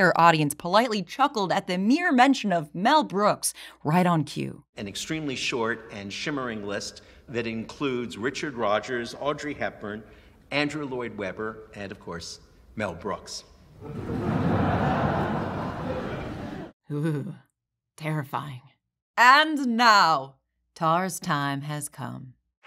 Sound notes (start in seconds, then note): 13.8 stilted laughter; 15.6 shudder